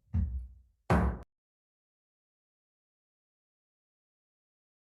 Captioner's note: gavel taps